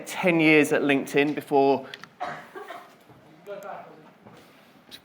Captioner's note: coughing